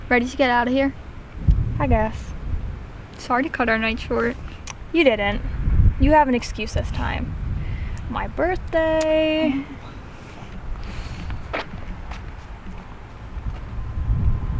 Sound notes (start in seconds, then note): 8.8 Mollie sucks her teeth